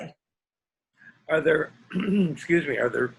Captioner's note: coughs